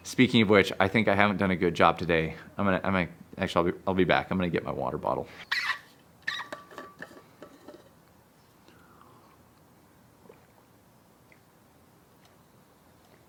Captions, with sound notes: Speaking of which, I think I haven't done a good job today. I'm gonna, I might, actually, I'll be back. I'm gonna get my water bottle. (bottle lid squeaking)